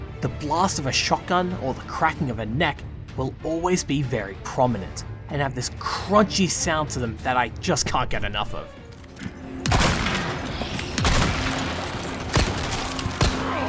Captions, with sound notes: The blast of a shotgun or the cracking of a neck will always be very prominent and have this crunchy sound to them that I can’t get enough of. *BOOM* *BOOM* *BANG* *BANG*